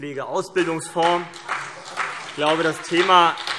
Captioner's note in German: Beifall CDU und BÜNDNIS 90/DIE GRÜNEN